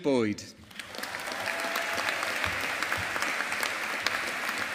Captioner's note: audience applauding